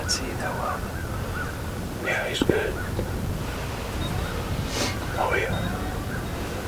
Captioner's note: whispering